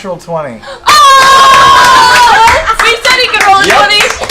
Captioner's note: cheering